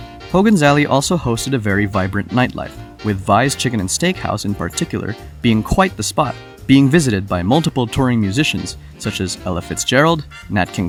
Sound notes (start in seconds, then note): none